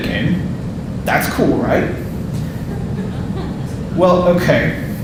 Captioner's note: audience laughing and groaning